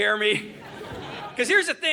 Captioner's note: audience laughing